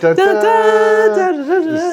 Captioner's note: humming